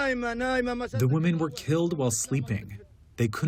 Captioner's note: through translator